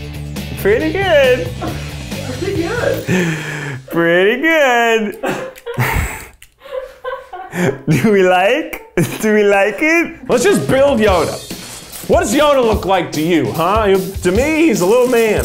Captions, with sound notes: Pretty good. - Pretty good. - Pretty good. (producers laughing) Do we like? Do we like it? - Let's just build Yoda. What does Yoda look like to you, huh? To me, he's a little man.